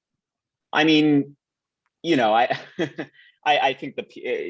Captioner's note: laughs lightly